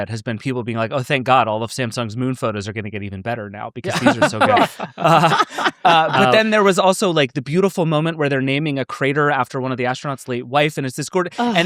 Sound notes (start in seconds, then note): 3.8 everybody laughing